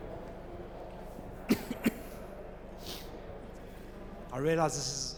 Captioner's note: coughs